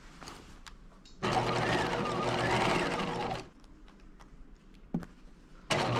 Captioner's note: sewing machine whirring